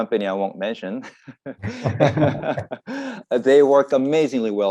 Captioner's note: laugh